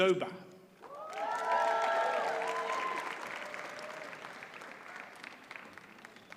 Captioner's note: audience cheers and applauds